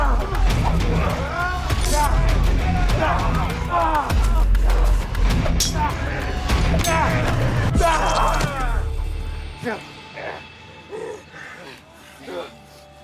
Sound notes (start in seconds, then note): 1.5 both moaning; 3.1 dramatic music; 5.6 swords clanging; 8.1 both moaning